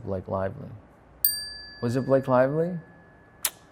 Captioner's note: bell dings